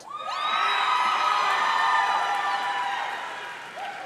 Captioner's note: audience cheering